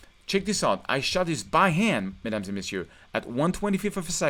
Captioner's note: speaking in French